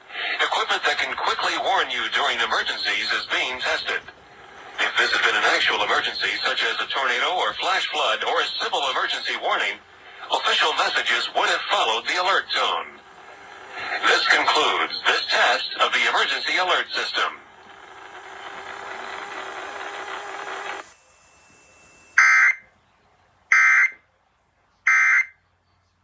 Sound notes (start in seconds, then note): 18.1 static whirring; 20.9 audio cuts off